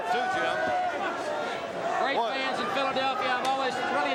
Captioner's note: crowd chatter